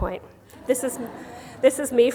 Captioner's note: laughter